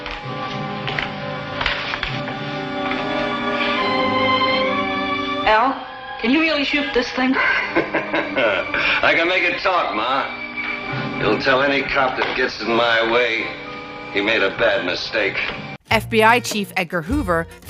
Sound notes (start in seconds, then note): 0.8 tense music continues; 7.2 laughing